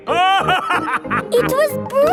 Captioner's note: laughing